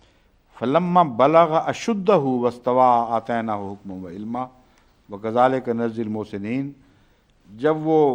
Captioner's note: Arabic